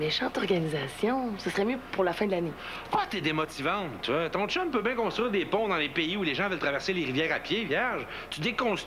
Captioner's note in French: none